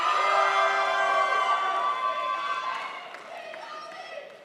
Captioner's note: crowd applauds